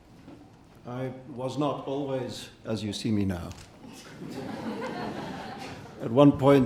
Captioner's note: audience laughing